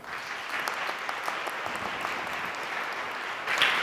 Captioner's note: applause